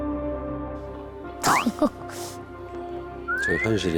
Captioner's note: gasps